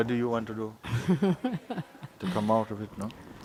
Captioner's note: questioner chuckles